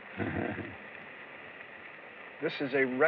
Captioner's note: chuckles